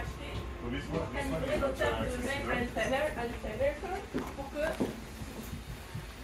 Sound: french chatter behind

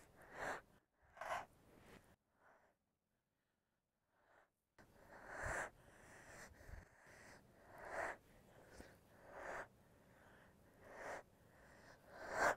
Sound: heavy breathing

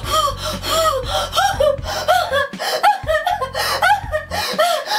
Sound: Mary breathes heavy

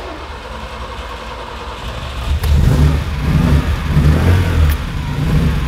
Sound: engine rumbles

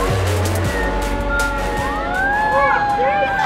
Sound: sirens wailing

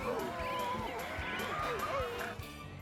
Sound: bleating; grunting

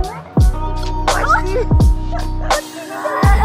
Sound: chaotic laughter; laughter

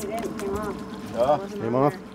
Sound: background chatter; fish splashing

